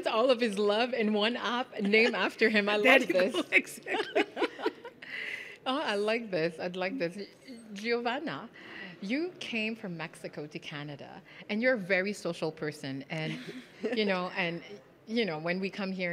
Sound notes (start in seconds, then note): 3.6 laughing